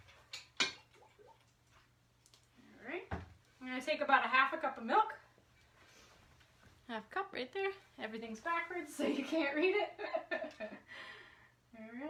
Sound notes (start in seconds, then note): 9.0 chuckles